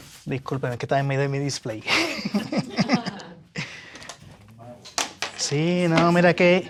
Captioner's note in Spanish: risas